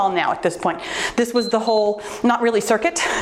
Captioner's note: timer beeps